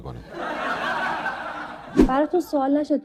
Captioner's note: laughter